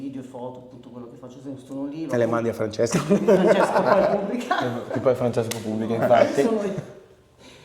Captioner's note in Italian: risate